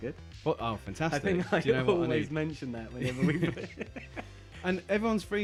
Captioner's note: laughs